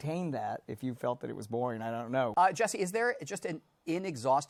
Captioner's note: none